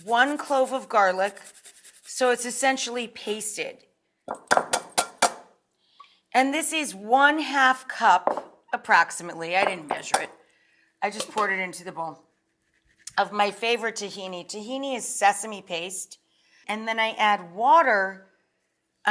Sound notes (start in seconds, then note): 0.0 garlic scraping; 4.2 grater clanking